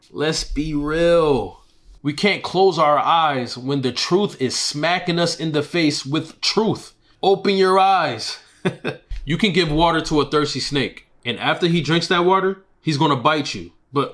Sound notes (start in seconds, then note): 8.5 laughs